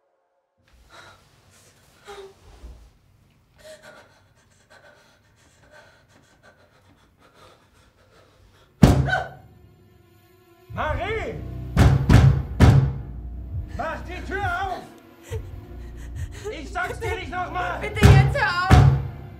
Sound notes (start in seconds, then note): 0.6 Marie breathing heavily; 11.8 knocking; 15.2 Marie breathing heavily